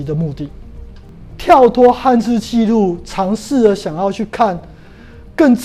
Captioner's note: chinese words